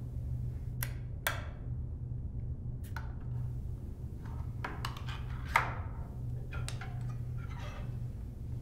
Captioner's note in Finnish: Tölkin aukaisemisen ääni